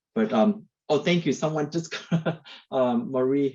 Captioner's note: laughs